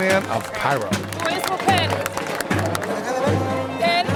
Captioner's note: non-english speech